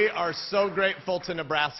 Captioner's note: cheering